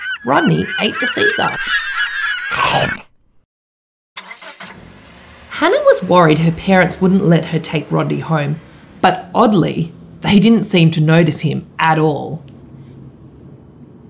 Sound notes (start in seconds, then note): 2.5 bear chomping; 4.6 car engine starting